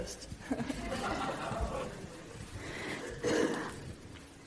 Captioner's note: laughing